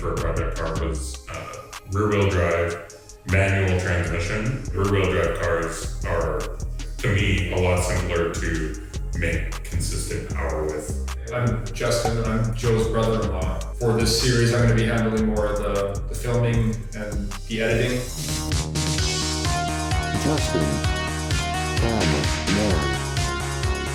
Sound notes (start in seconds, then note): 20.5 robotic Voice